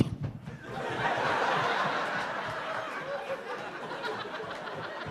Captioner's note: audience laughing